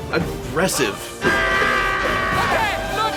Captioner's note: frantic yelling